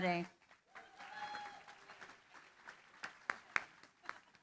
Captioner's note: applause